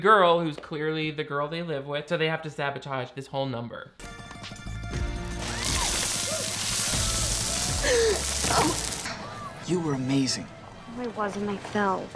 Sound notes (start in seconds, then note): 4.0 bright music; 5.4 candy clattering; 7.7 groans